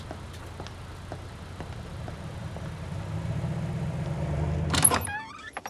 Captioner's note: footsteps clacking; car engine roaring; door creaking